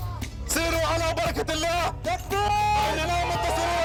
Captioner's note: Arabic spoken audio